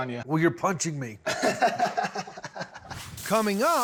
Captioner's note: laughs